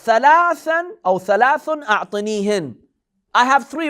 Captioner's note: Arabic